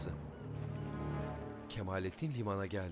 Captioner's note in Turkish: Martı sesi